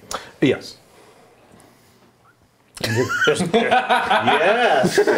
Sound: laughing

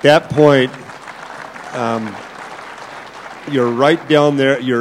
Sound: applause

